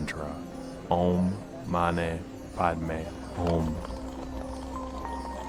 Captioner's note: narrator speaking in foreign language; gentle music; wheels rattling